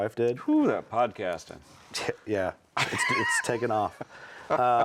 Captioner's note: laughs